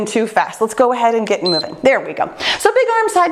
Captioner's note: timer beeps